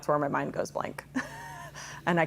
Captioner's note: laughs